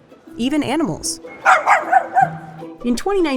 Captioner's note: barking